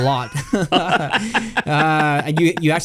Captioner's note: both laugh